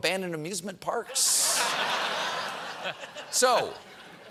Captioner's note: laughter